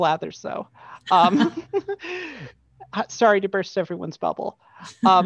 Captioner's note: laughter